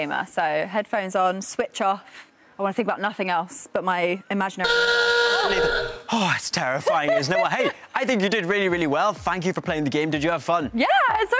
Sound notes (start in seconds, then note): 4.6 is cut off by a loud buzzer